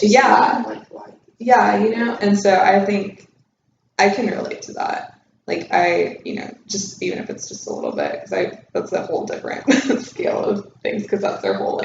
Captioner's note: laughs